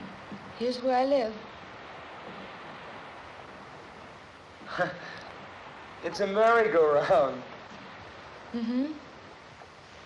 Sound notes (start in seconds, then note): 4.6 chuckling